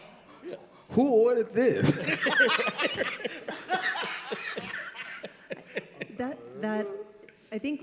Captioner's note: all laugh